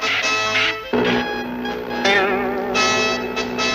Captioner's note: crash!